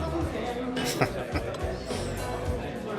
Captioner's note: chuckling